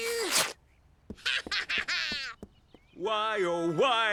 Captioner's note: laughing